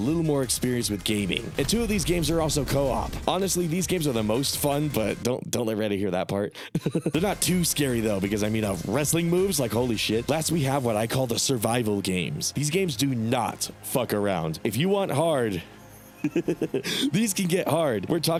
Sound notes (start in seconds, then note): 6.6 laughs; 16.1 laughs